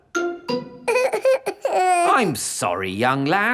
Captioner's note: whimpers